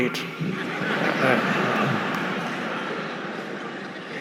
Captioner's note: audience laughing